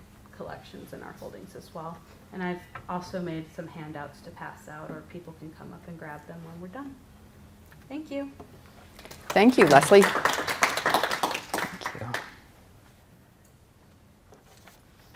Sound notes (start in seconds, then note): 9.0 applause